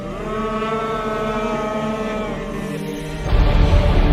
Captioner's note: group booing